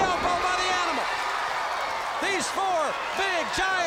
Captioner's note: crowd cheering